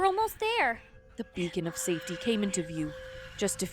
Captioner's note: ghostly voice all around